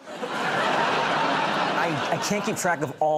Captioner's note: laughter